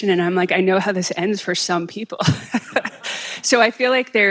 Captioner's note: laughing